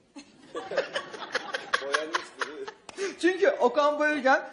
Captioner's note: laughter